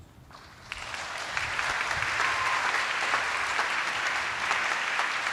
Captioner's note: attendees applauding